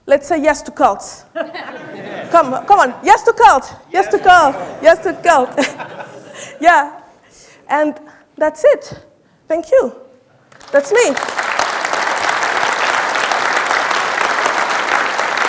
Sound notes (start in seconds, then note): 1.3 audience laughing; 11.1 audience applauding